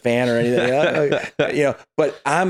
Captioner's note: laughing